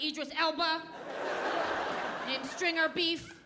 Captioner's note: audience laughing